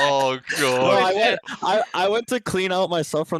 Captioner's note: laughs